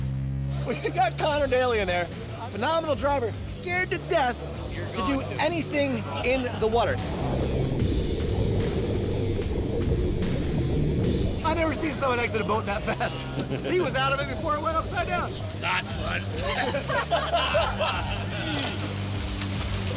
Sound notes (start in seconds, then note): 7.0 water rushing; 12.8 laughter; 16.3 laughter